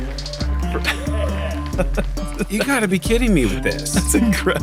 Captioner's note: laughs